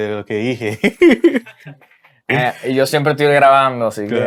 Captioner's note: laughs